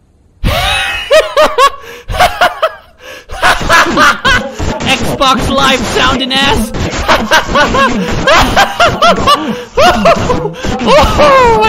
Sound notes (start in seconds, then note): 0.4 laughter; 6.7 laughter; 10.6 breath; 10.7 laughter